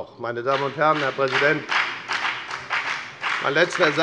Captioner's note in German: Beifall bei der FDP und der SPD